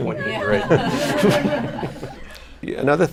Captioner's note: laughter